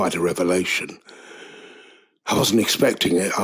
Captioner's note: inhale